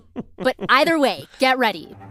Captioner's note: laughs